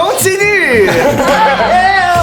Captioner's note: the group laughs